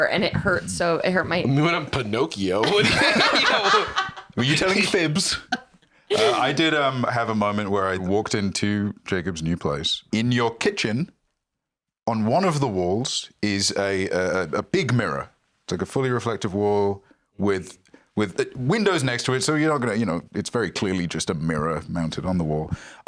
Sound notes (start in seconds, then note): 3.2 laughs